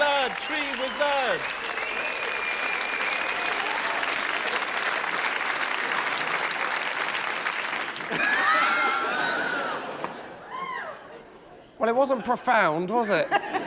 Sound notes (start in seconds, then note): 3.4 applause; 9.6 laughter